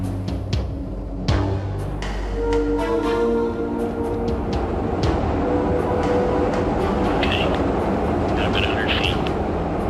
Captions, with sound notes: [plane noise] - Tank, got a bit of 100 feet.